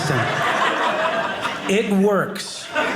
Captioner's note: audience laughing